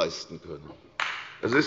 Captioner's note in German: Beifall bei der CDU und dem BÜNDNIS 90/DIE GRÜNEN